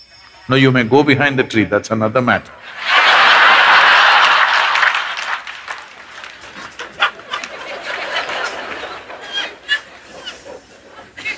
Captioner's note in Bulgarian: смях и аплодисменти